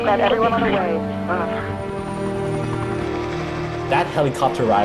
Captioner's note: whirring